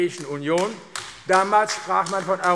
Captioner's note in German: Beifall AfD